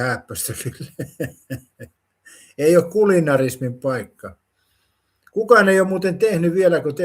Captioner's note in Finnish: naurua